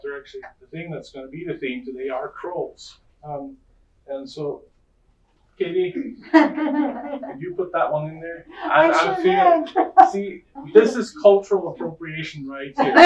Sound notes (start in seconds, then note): 8.5 audience laughing; 12.8 laughter and clapping